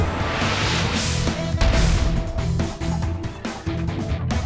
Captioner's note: air whooshing